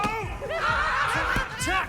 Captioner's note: laughter